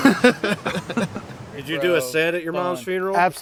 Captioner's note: laughter